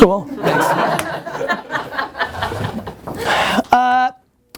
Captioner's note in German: Lachen